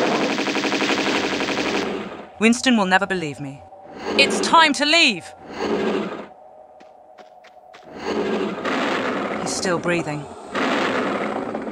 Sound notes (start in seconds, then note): 5.6 heavy breathing